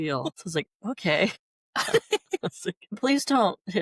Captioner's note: laughter